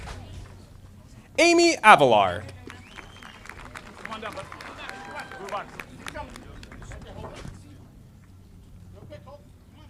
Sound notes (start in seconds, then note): 2.6 audience applauding